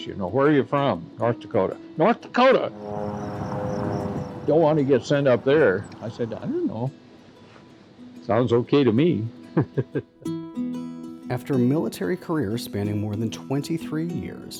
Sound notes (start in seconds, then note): 9.6 laughs